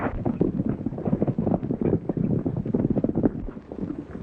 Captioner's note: horses galloping